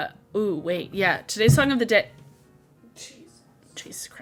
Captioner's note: roof thuds